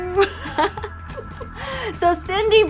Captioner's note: chuckle